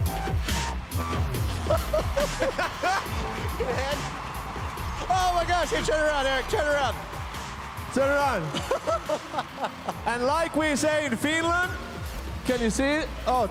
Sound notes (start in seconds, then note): 8.5 laughs